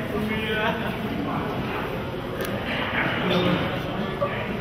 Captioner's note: audience member murmurs